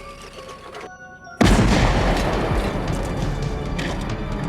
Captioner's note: explosion booming; dramatic music